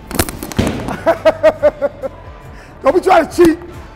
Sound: laughing

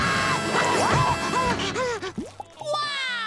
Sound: screaming; gasping

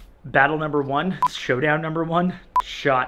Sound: beep

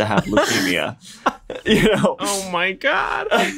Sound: laughter

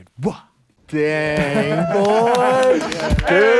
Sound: laughs

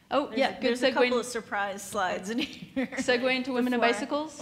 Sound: laughs

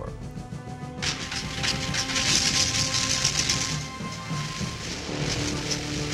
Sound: propellors whirring

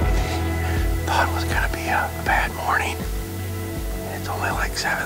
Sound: whispering

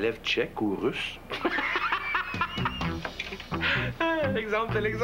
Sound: Rire

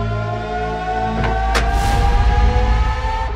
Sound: door opening

